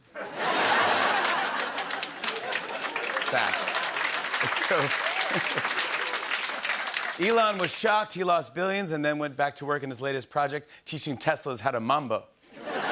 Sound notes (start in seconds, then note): 0.0 laughter; 3.3 applause; 5.6 chuckles; 12.5 laughter